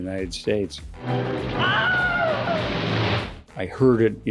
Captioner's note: cowboy screaming